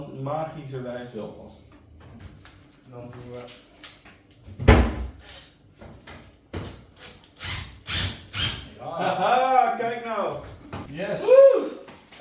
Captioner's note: dutch chatter